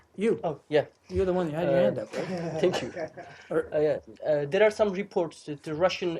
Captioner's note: laughter